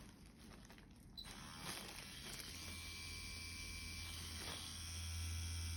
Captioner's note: machine whirring